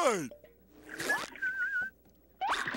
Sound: whistling

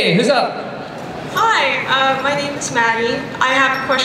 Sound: voiceover

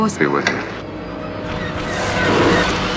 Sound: rocket fire; intense music

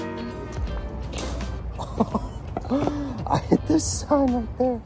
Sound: upbeat music playing; disc hitting sign; laughs

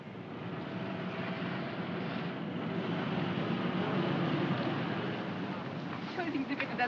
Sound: vehicles rumbling; speaking in German

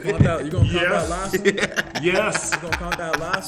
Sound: laugh

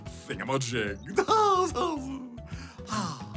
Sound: laughs

